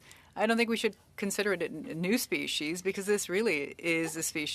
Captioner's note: speaking French